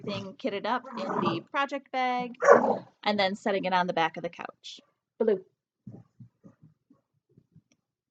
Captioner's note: dog barks